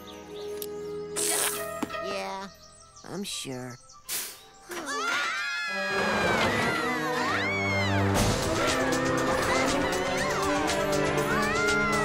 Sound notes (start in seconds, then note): 3.4 mechanical hiss; 4.8 surprised screams; 8.1 frightened screams